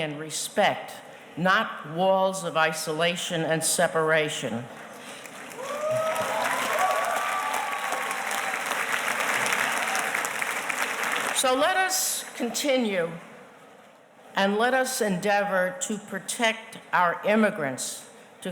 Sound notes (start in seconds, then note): 5.2 audience cheers and applauds